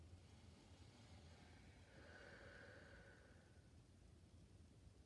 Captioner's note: breathing deeply